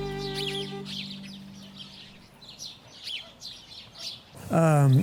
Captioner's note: no dialog. wind noise and birds chirping